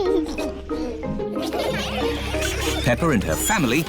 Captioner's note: giggles; laughter